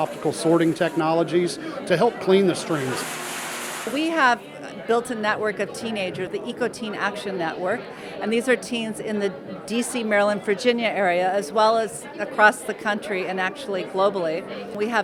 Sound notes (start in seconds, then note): 2.2 recycling plant sounds